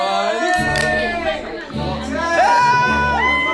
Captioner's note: group cheering; can lid pops; everyone shouts